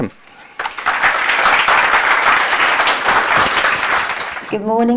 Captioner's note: applause